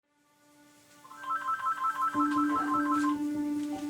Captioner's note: ringing